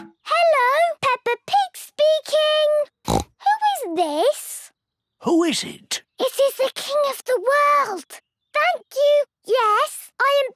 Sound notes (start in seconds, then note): 3.0 snorts